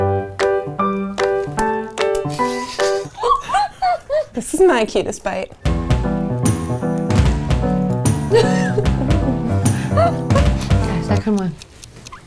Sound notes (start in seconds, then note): 0.0 playful music; 2.3 giggling; 5.6 bouncy music; 8.3 giggling